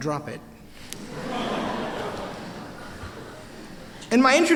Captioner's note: laughter